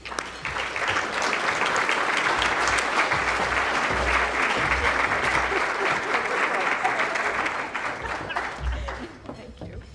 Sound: applause

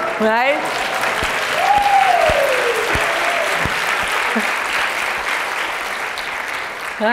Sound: applause

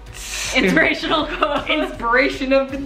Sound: laughs

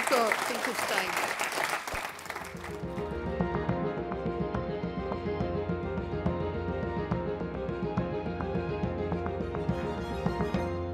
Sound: applause

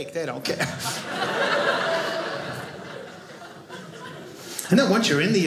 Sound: audience laughing

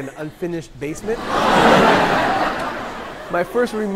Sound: people laughing

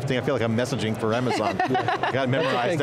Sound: laughing

